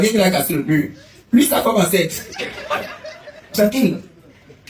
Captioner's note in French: rires